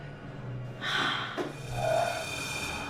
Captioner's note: sighing